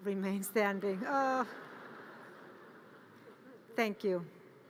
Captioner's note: audience laughter